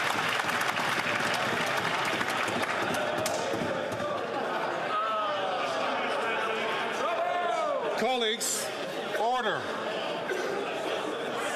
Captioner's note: some Applause